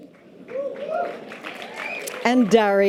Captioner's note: light applause and cheers